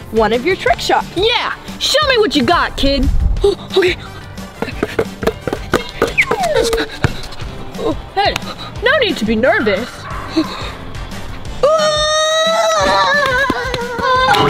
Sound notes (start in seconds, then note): 6.3 slide whistle; 11.6 screaming